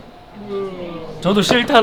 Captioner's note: yawn